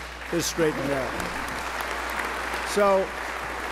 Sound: applause

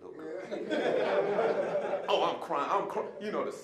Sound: audience laughing

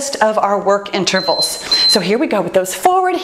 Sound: timer beeps

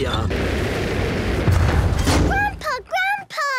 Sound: thuds

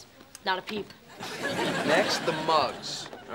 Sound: audience laughing

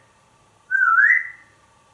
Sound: whistle

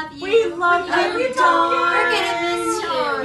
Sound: saying in chorus

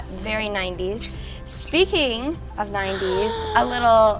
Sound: gasps

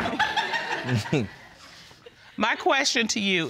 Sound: audience laughing

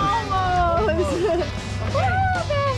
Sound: laughs

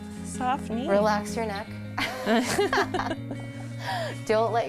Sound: laughs

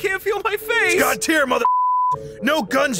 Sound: beep

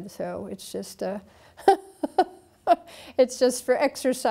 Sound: laughing

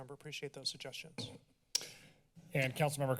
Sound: thuds; clicks tongue

